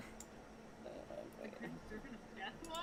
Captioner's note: mumbling to himself